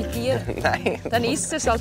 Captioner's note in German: lacht